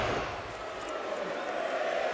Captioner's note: crowd chanting